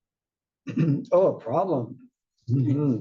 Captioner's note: cough